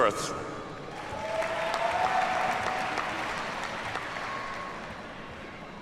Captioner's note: audience cheers and applauds